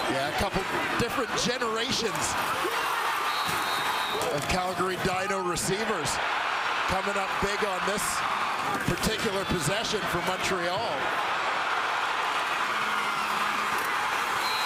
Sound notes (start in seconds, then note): 5.6 crowd Noise